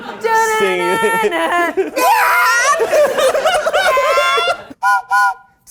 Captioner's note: vocalizing; whistle blows